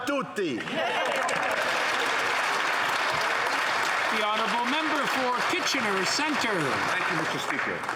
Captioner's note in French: voix de l'interprète